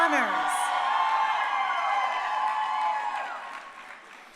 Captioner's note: crowd cheering